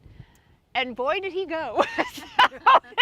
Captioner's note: laughing